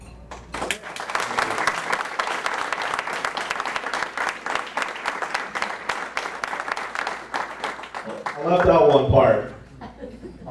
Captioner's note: applause